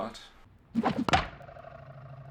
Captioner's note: whoosh; thud